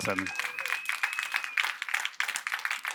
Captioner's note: applause